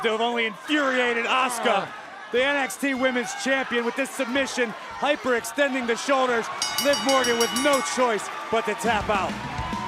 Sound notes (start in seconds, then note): 6.6 bell ringing